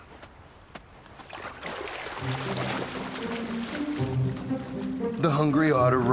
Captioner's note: water trickling; light music